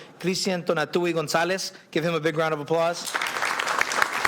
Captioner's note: applause